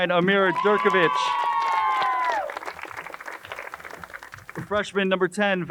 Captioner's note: crowd cheers and applauds